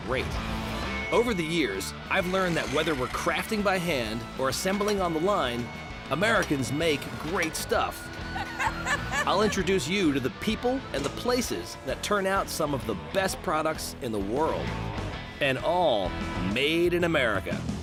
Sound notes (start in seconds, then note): 8.1 laughs